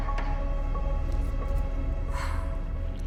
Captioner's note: sighs